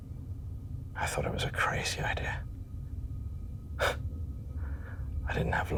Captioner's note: scoffs